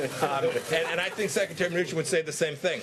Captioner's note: laughter